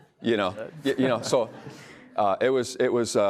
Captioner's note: audience laughs